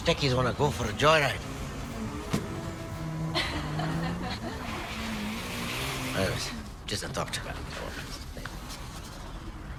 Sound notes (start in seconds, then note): 3.2 girls laugh